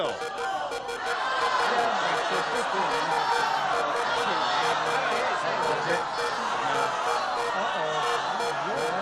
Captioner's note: clamoring